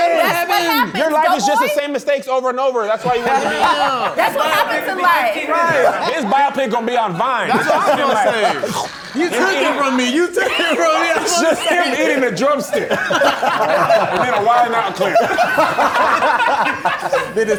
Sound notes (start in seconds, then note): 8.8 chomps; 15.6 mumbles, loud laughing